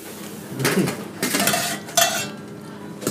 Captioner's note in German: Klirren der Behälter